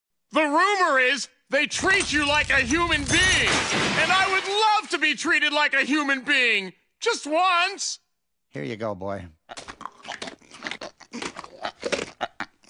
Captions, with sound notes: *Yelling* The rumor is they treat you like a human being and I would love to be treated like a human being, just once. Here you go boy *Munching*